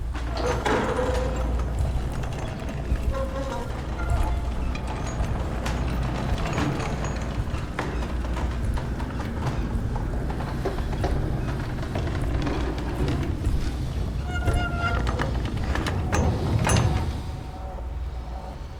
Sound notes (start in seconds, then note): 0.2 wheels grind; 5.0 grinding wheels close in; 9.6 executioner breathes